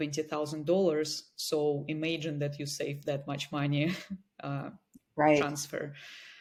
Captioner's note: chuckles